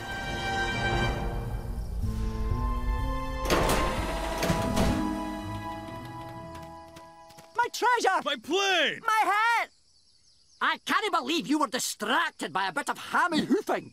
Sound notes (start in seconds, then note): 3.4 clank